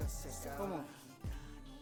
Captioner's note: Spanish